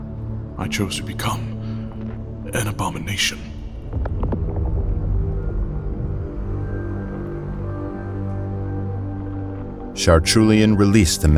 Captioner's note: ethereal moaning fades away